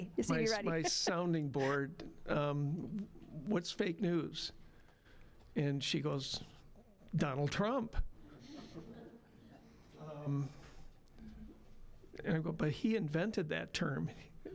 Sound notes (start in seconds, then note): 8.6 scattered laughing